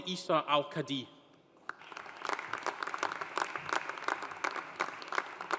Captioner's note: audience applauding